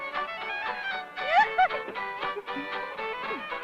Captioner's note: laugh